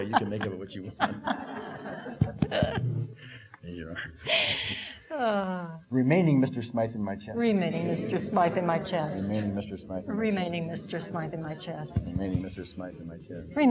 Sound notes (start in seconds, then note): 0.8 laughing; 4.2 exhaling